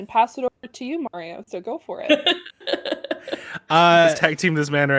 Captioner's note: laughs